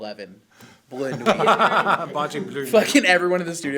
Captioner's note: laughs